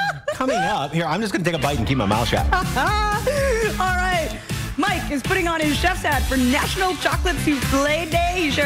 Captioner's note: laughter